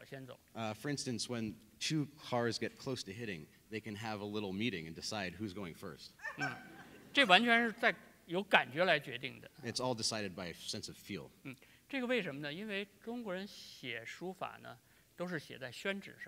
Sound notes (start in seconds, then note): 6.2 laughter; 7.8 speaking in Chinese; 14.1 speaking in Chinese